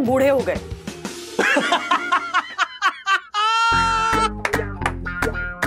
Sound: laughing

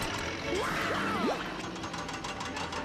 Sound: yelling

